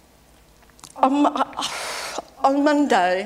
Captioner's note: sighs